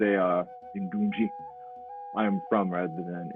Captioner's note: speaks foreign language